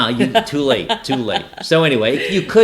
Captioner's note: laughing